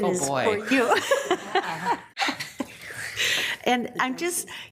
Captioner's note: group laughs